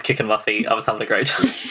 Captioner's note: laughing